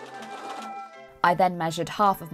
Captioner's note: machine whirring